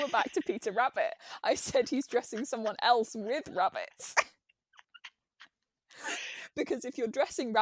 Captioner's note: laughs; both laugh